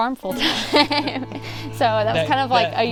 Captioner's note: laughs